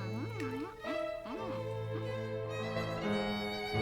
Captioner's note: happy Raven eating noises